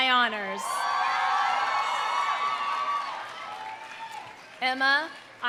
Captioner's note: audience cheering; audience applauding